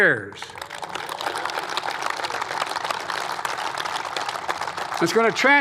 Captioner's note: applause